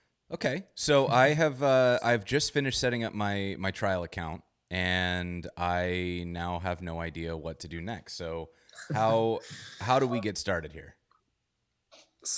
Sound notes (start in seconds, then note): 8.8 laughs